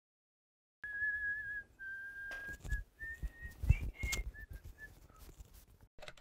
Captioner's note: whistling